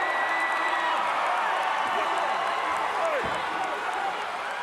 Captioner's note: audience cheering